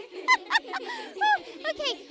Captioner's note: kids laughing; laughing